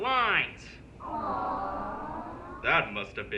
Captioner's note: crowd awws